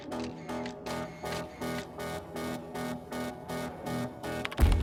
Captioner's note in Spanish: Sonidos al tomar fotos